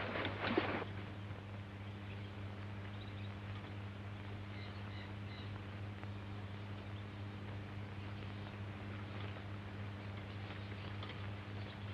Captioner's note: birds